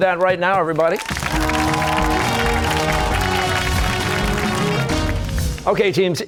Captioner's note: cheers and applause